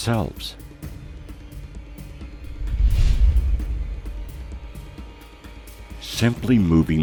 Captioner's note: suspenseful music; air whooshing